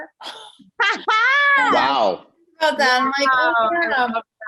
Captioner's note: Casey laughing